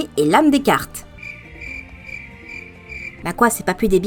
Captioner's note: crickets.MP3